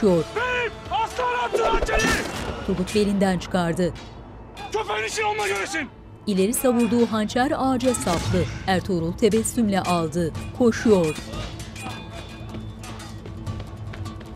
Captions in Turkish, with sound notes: Beyim, Aslıhan Hatun'un hançeri. Köpek'in işini onunla göresin. (Dövüş sesleri)